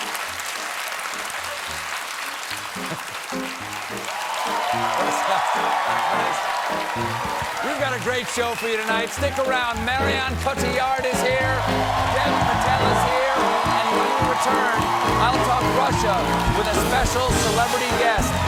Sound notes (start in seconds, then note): 0.0 applause; 2.7 cheers and applause